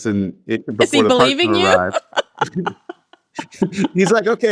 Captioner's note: laughs